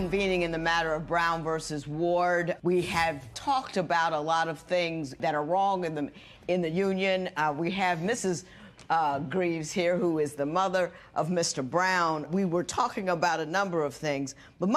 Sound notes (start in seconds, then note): none